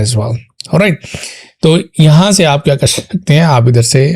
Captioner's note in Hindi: नाक से की जाने वाली आवाज़